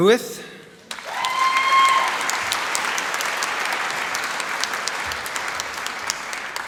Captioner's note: applause